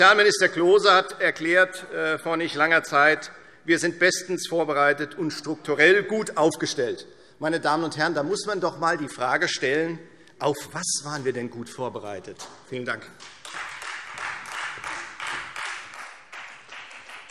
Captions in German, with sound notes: Sozialminister Klose hat vor nicht allzu langer Zeit erklärt: Wir sind bestens vorbereitet und strukturell gut aufgestellt. - Meine Damen und Herren, da muss man doch einmal die Frage stellen: Auf was waren wir denn gut vorbereitet? - Vielen Dank. [Beifall Freie Demokraten]